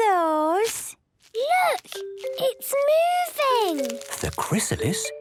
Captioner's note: whispering